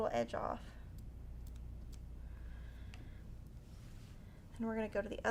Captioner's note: scissors snipping